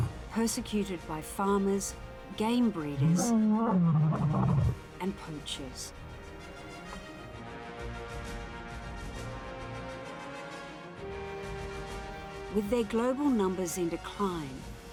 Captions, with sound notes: Persecuted by farmers, game breeders, (lion groans) and poachers. (dramatic music) With their global numbers in decline,